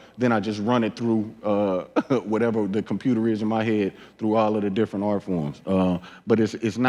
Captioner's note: laughs